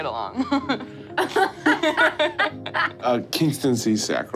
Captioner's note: laughs